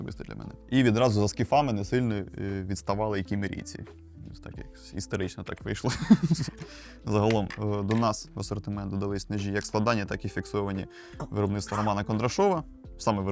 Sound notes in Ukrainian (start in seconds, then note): 5.9 сміх